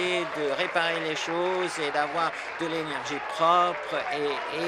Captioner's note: applause